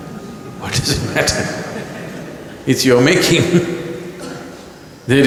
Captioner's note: laughs